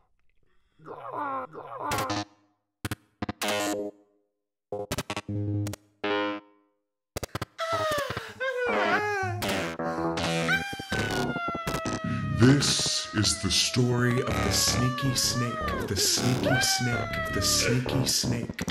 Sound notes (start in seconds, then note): 0.9 distortion sound effects; 13.0 modulated voice